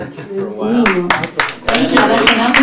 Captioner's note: applause